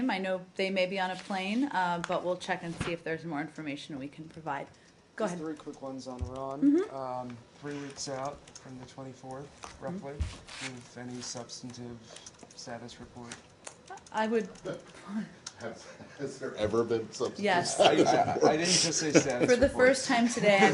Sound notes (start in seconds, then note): 17.6 laughter